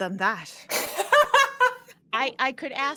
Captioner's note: all laughing